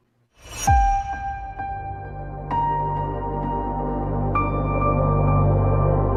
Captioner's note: logo chiming; bright music